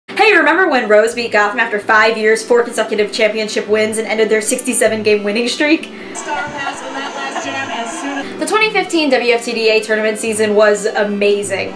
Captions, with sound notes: Hey remember when Rose beat Gotham after five years, 4 consecutive championship wins and ended their 67-game winning streak?! *SOBS* The 2015 WFTDA tournament season was amazing